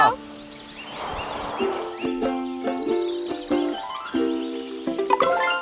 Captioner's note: birds; notification